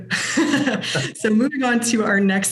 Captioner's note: laughs